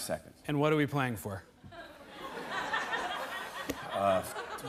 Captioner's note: laughter